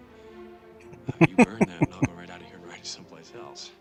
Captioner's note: laughing